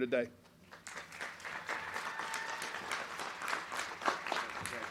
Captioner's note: crowd clapping